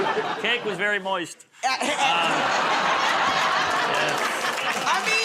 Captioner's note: laughter